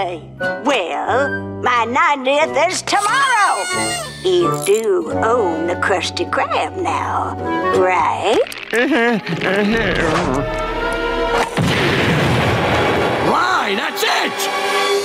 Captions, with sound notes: Well, my 90th is tomorrow! You do own the Krusty Krab now, right? [groaning] Lie, that's it!